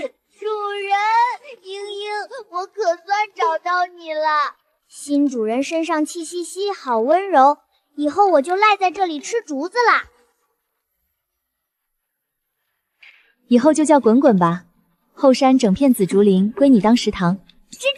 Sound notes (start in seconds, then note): 0.0 sobs